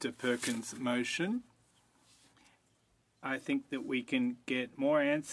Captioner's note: speaking French